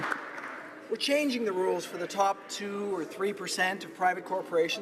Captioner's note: applause